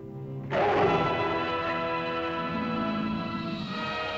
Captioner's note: dramatic whimsical music; dramatic music; lizard roars; dramatic music